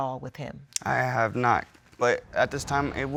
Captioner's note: clicks tongue